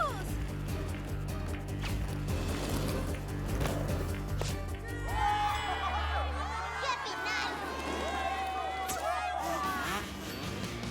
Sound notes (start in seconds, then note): 4.8 cheers; 9.1 buzzing engines